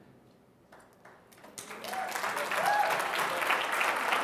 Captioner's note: applause